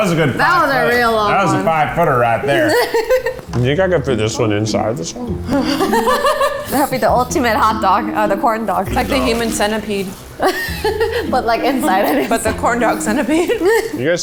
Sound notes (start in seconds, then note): 5.3 laughing; 10.8 laughs